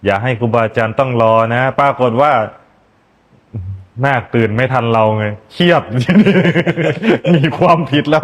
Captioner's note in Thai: เสียงหัวเราะ